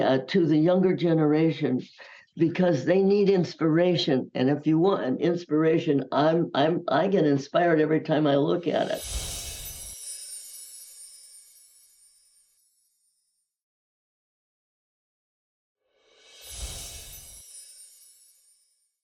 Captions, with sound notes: to the younger generation, because they need inspiration. And if you want an inspiration, I get inspired every time I look at it. (chimes ringing) (chimes ringing)